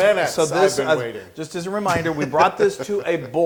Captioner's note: laugh